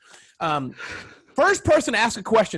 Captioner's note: laughing